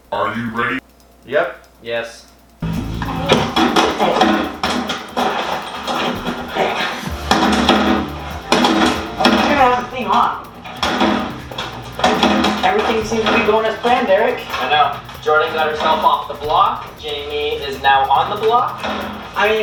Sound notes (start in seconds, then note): 0.0 suspense music; 3.2 loud clanking